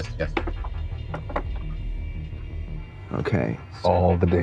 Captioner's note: dice rolling